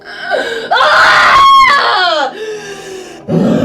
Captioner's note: Grito fuerte